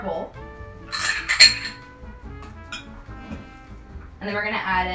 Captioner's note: glass scraping